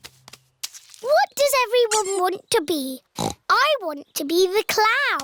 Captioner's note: snorts